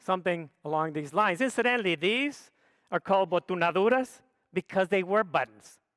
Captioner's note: speaks foreign language